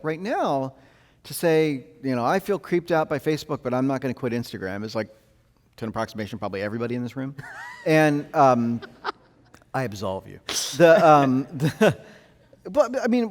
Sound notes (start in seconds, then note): 7.4 host laughing; 10.5 laughs